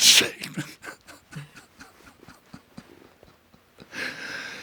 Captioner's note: John laughing